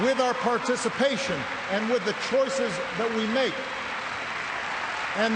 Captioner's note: cheers and applause